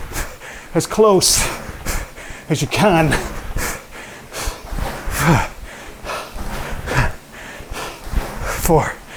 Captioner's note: breathes heavily